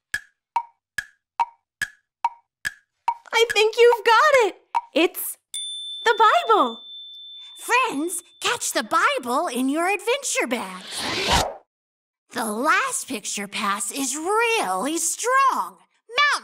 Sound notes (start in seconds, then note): 0.1 clock ticks; 5.5 bell rings